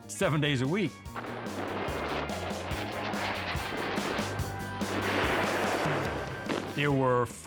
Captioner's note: bright upbeat music; aeroplanes whooshing